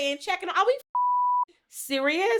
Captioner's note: beep